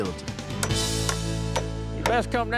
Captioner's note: hammering